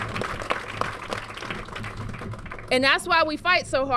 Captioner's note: applause